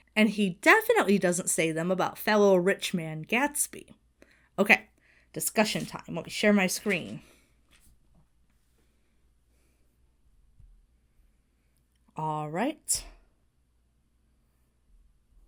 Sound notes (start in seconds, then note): none